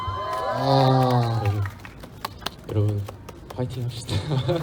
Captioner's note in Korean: 웃음